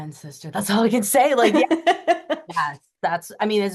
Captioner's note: laughing